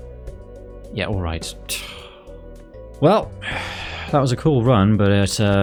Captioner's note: sigh